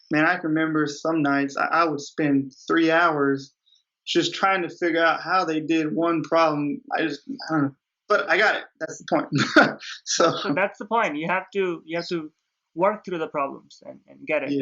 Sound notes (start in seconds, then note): 8.2 laughs